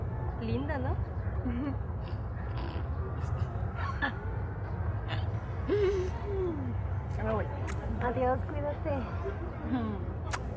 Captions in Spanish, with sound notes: ¿lindo No? (risas) ya me voy ¡Adiós! Cuídate